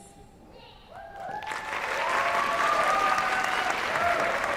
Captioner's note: applause